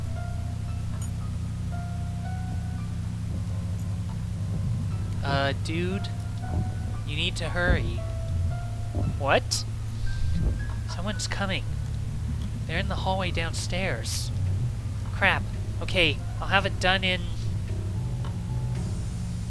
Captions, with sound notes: *thumping noise* "Uh dude... "You need to hurry" "What?" "Someone's coming. "They're in the hallway downstairs..." "Crap. OK. I'll have it done in..."